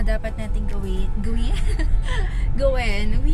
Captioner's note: chuckles